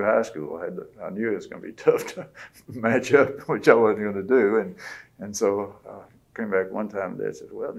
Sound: laughs

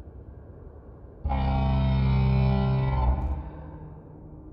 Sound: carrier horn

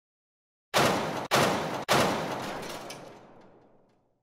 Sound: bangs

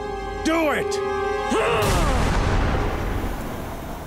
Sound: grunting

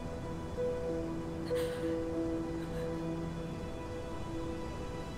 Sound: Googly sobbing

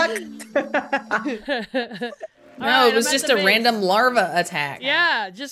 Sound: laugh

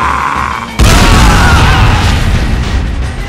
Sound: explosion

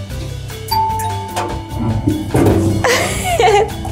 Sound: chime

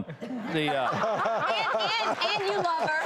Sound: laughter

